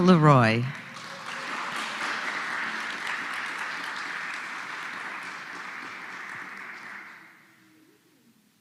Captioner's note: applause